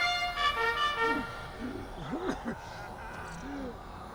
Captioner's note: gasping for breath